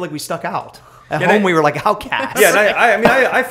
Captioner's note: laughter